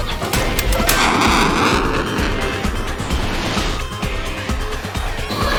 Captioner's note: aircraft engine roaring